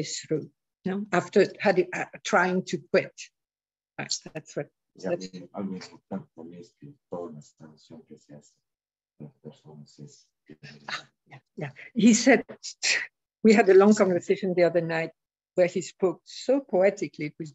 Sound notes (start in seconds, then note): 8.7 speaking spanish